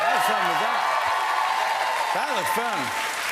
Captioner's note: applause